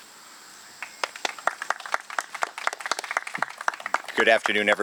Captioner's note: audience clapping